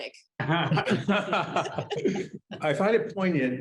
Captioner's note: group laughing